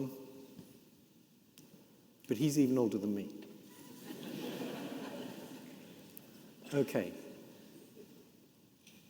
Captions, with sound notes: But he's even older than me. (audience laughing) Okay.